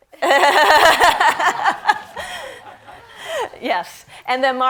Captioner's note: all laughing